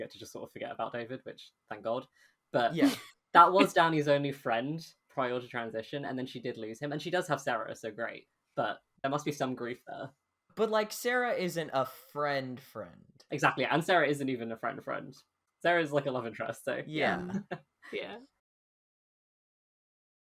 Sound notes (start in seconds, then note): 2.7 laughs